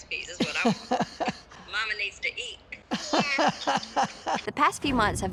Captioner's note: grandma laughs